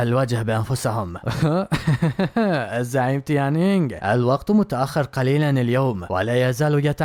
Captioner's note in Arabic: ضحك